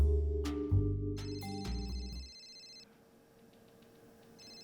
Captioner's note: phone rings